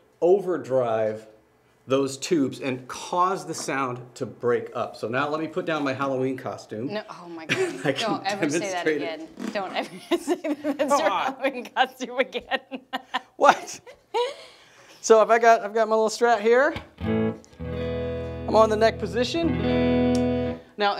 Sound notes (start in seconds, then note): 12.2 laughing; 16.8 strums guitar